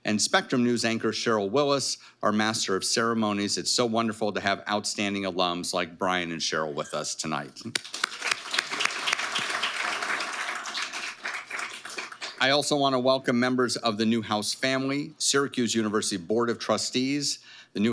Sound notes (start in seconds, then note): 7.7 audience applauding